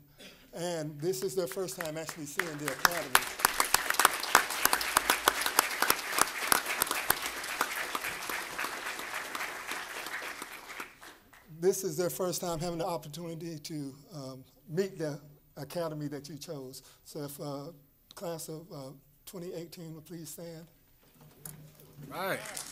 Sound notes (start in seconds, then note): 9.1 applause